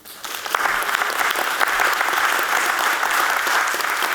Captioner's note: audience clapping